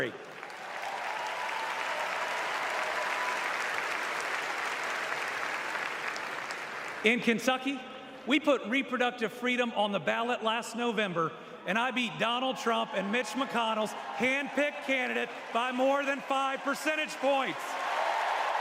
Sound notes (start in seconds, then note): 5.2 applause